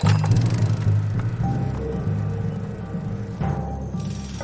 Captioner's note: engine revving